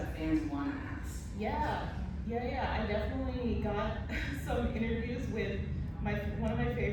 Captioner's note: laughs